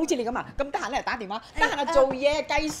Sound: in Cantonese

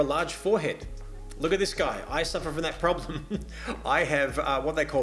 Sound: laughs

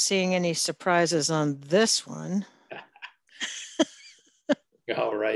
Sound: laughs

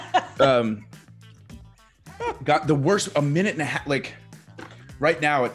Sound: laugh

